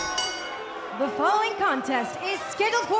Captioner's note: bell ringing